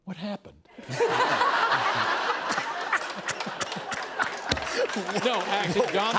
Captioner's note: laughter; applause